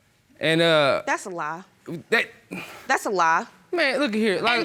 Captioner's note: sighs